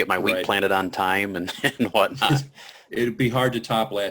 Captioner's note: chuckles